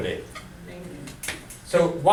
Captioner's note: voiceover